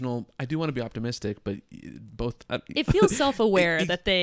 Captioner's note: laughs